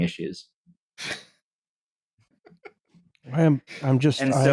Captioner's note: small laugh